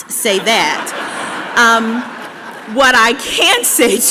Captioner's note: laughter